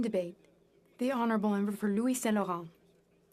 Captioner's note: speaking FRENCH